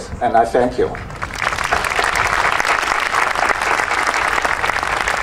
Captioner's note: audience applauding